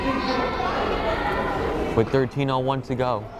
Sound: crowd chattering

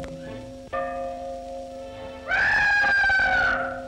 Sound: whistling

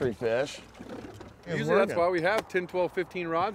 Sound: fish splashing

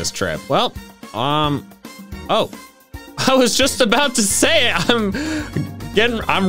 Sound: laughing

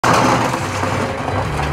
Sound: door rattling; upbeat festive music

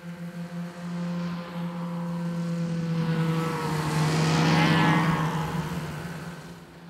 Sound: hum of the engines

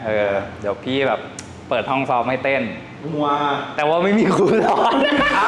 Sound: laugh

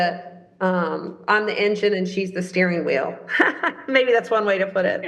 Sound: laughs

